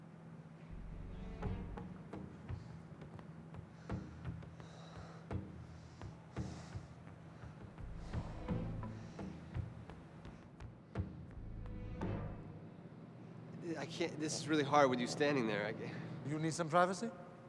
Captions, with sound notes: (tense music) (heavy breathing) This is really hard with you standing there. - You need some privacy?